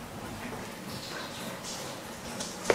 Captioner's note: rippling water in the background